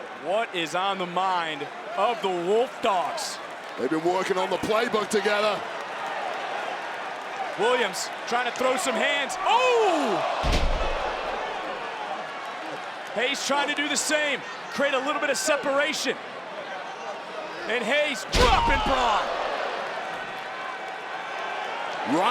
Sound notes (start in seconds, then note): 10.4 thuds; 10.7 crowd exclaiming; 19.3 crowd exclaiming